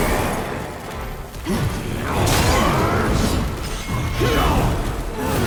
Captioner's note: game characters grunting